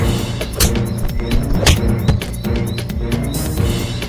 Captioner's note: kicks thudding